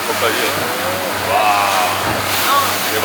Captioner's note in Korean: 감탄